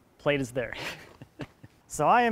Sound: snickers

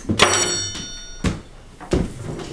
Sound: knife clangs on table

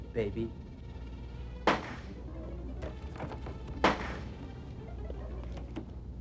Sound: ineffectual gunshots

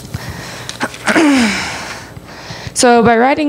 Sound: clears throat

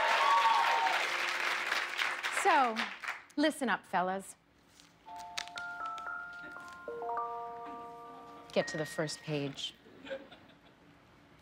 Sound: cheers and applause

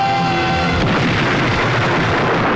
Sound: explosion

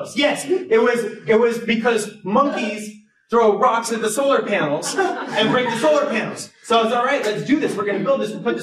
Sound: laughter

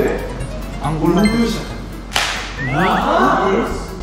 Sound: clap

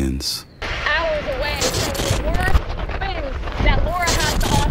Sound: distorted voice

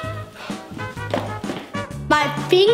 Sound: gasping and shuddering sounds; huffs

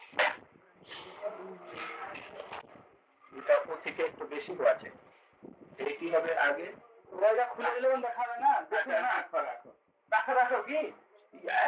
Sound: Hindi

